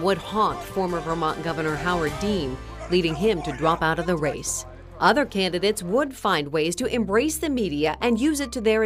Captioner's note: screaming